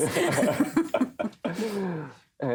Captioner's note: laughter